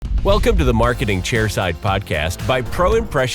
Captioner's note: voiceover